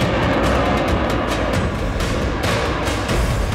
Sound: plane landing

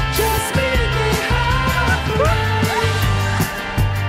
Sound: squeals

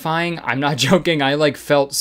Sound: chuckling

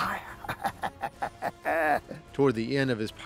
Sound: evil laughter

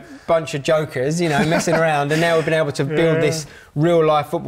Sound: laughing

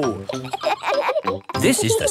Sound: kids laughing

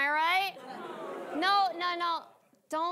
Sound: audience booing

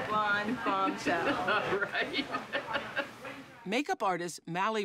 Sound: laughs

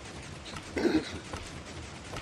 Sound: clears throat

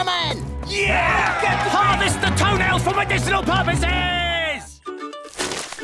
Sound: angry shouting

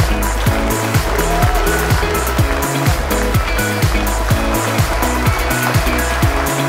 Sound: applause

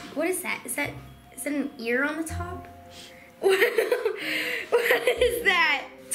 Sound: laughing

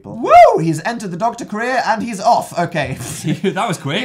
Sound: laughs

